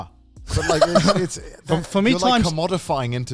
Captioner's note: laughs